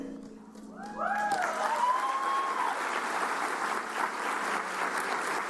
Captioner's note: cheers and applause